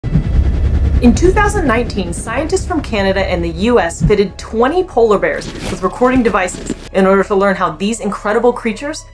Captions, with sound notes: (background music) (helicopter whirring noise) In 2019, scientists from Canada and the US fitted 20 polar bears with recording devices in order to learn how these incredible creatures